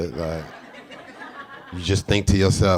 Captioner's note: audience laughing